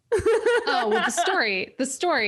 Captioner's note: laughs